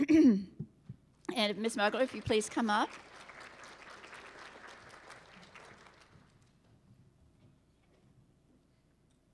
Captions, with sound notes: And Miss Mugler, if you'd please come up. (applause)